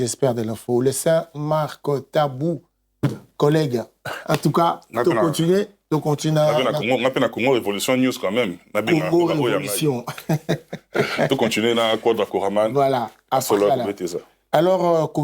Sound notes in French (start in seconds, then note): 4.0 raclement de gorge; 10.0 rires